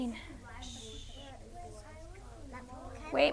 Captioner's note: multiple students talking